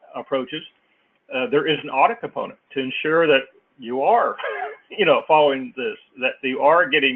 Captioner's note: laugh